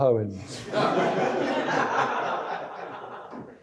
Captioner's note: laughter